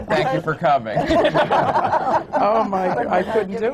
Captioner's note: laughter